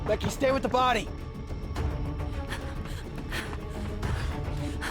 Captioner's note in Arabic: خطوات تجري، تلهث